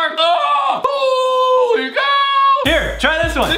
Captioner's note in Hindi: चिल्लाता है